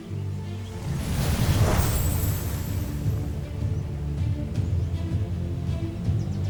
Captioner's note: sparkling whoosh, enchanting chimes